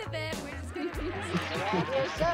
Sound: laughing

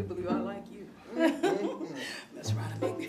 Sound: chuckling

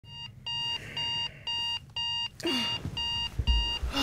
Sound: alarm sounds

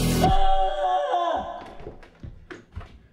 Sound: screaming

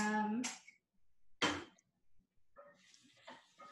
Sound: stir, stir

